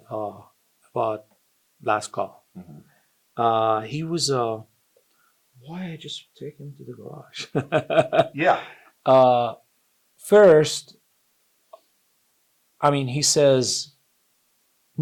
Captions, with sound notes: about last call, he was, "Why he just take me to the garage?" (both laugh) - Yeah. - First, he says, "No tankless."